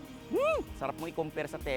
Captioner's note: shrieks in excitement